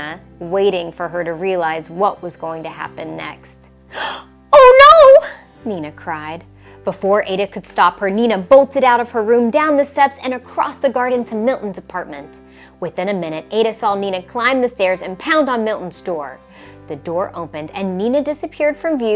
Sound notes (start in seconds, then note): 3.9 gasps